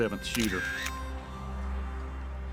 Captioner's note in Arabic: صوت نقرة الكاميرا